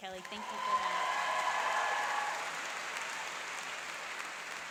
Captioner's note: applauding and cheering